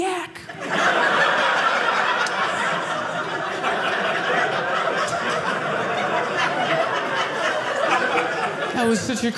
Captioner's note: audience laughing